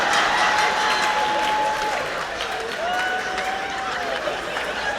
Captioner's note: laughter; cheers and applause; laughter